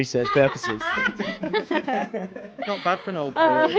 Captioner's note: both laughing